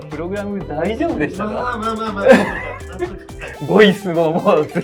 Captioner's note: laughs